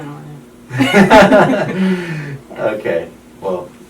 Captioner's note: they both laugh